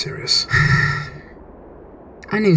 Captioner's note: Cinder sighs